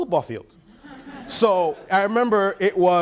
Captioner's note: laughing